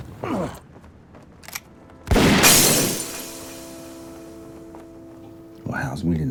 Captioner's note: gunshot